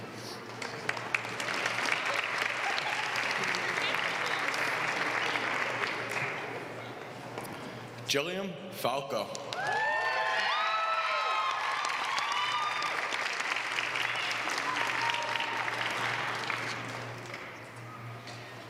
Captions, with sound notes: [APPLAUSE] >> Jilliam Falco. >> [APPLAUSE]